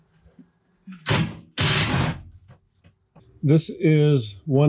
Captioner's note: drill whirring